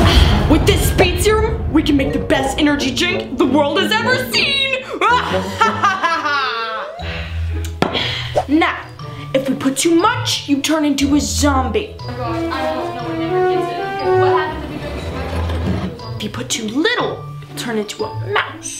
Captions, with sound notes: - With this speed serum, we can make the best energy drink the world has ever seen. (evil laughing) Now, if we put too much, you turn into a zombie. (sneaky music playing) You put too, little turn into a mouse.